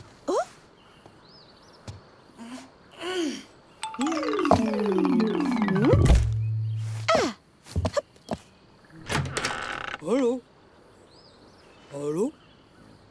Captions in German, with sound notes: Oh? (Müdes Stöhnen) (Rollendes Geräusch) Ah! Hopp! Hallo! Hallo?